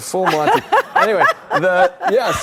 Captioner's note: audience laughter